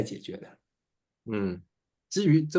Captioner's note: nonverbal grunt as interjection